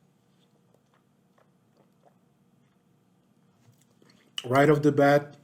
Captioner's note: swishes wine